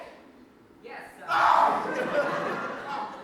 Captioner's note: wizard screams